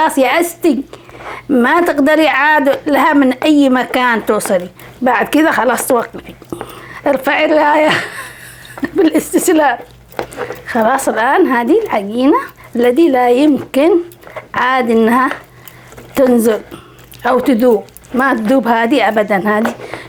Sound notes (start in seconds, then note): 7.7 haha